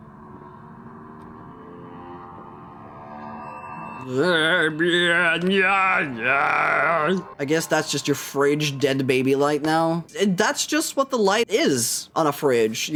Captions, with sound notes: [Ominous Music] [Mocks Ominous Music] Eh byehh nyanyaaaa I guess that's just your fridge dead baby light now. That's just what the light is on a fridge.